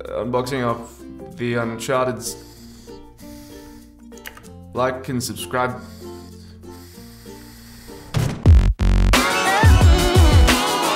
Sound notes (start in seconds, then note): 4.2 keyboard click as lazy replacement for mouth click